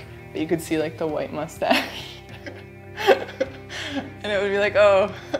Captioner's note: laughs